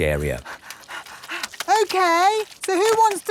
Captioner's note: panting